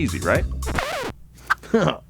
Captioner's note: record scratching